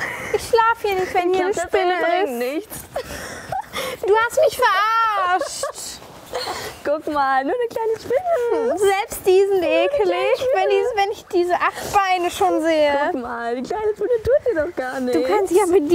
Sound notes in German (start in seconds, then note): 2.9 lacht